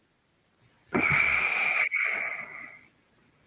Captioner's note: satisfied grunt